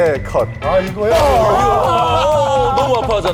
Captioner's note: genshin in intense pain